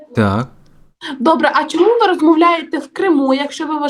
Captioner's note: Ukrainian